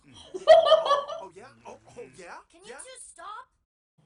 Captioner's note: laughing and middle fingering